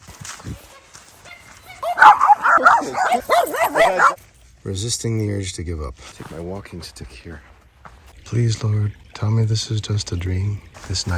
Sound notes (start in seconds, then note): 1.7 dogs barking; 1.8 woman yells